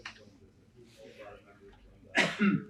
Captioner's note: coughs